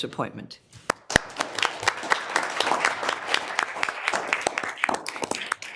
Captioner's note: audience applauding